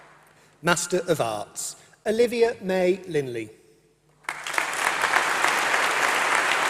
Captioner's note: applause